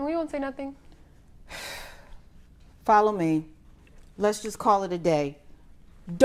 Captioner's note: exhales sharply